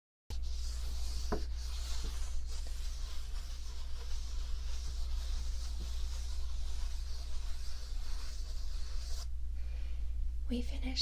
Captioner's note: paper rubbing